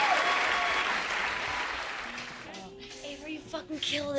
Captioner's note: crowd applause fades